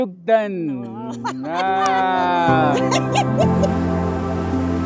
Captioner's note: laughter